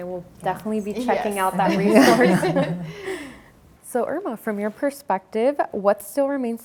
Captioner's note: everyone laughs